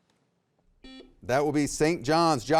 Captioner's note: buzzer beeping